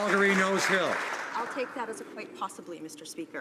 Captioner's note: some Applause